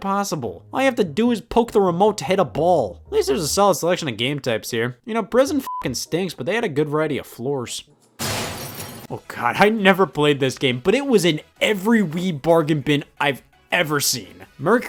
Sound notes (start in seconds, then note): 5.5 beep; 8.2 glass shattering